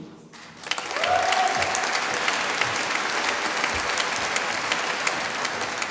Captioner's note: applause